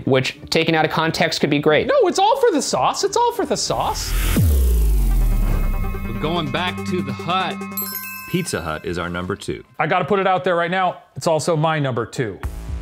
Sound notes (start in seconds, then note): 3.4 tense music; 6.8 ding